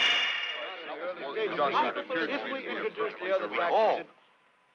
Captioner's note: all chattering